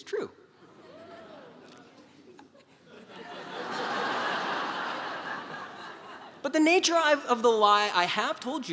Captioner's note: laugh